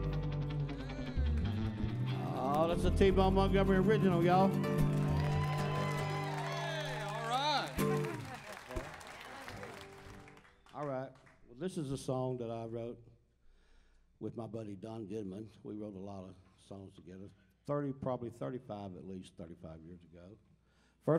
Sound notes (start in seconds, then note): 4.4 crowd cheers